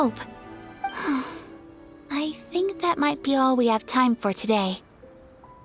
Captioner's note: sigh